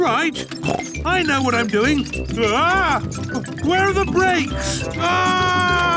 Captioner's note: scream